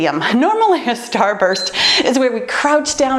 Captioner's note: timer beeps